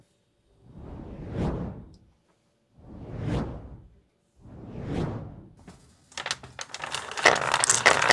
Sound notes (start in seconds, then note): 0.6 whoosh; 6.1 marbles rolling